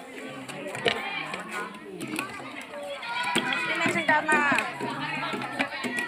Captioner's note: clap hands